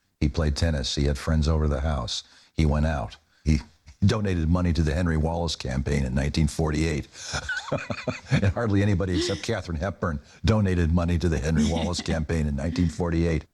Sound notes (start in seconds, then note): 7.3 laughs